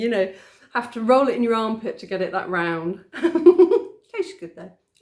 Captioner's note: laughing